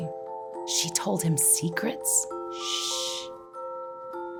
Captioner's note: shhhhh